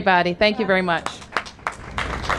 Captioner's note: applause